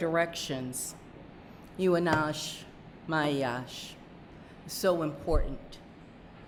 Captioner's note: speaking narragansett